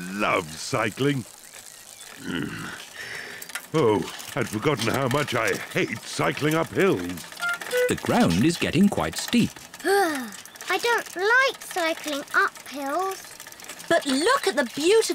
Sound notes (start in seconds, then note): 2.1 grunts; 9.8 groans